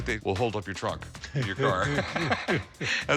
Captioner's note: laughter